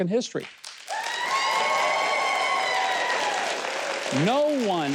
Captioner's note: audience cheering